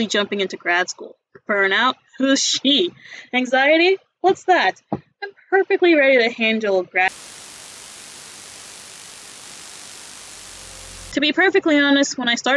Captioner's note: cut to static